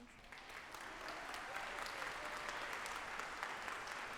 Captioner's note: audience applauding